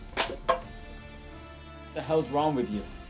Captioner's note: cup clunks